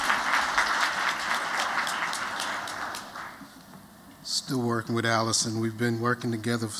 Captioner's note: �applause�